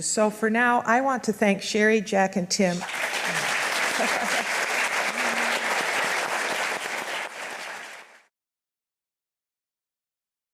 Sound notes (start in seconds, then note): 2.8 audience applauds